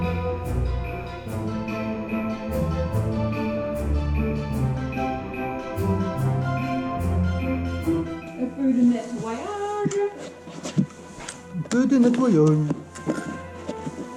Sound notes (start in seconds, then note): 7.9 speaking french